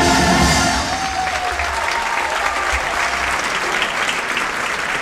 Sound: audience cheering

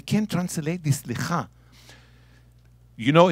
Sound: speaking in Hebrew

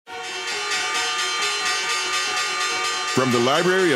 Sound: bell chiming

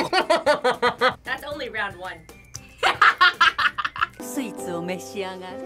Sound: laughs; laughs

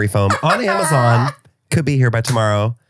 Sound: laughs

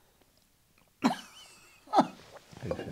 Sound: laughter

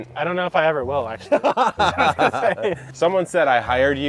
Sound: all laugh

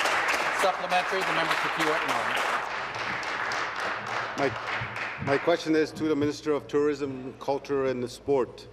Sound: applause

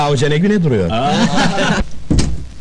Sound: laughing

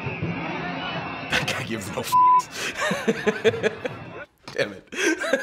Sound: laughing

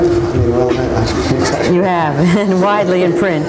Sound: laughing

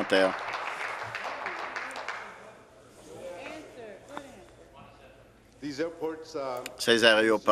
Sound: applause

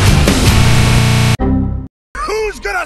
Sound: windows Crash

